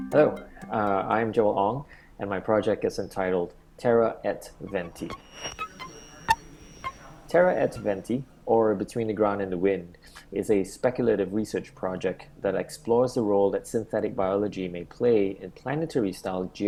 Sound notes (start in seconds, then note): 4.4 glitch sound